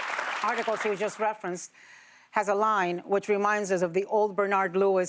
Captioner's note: applause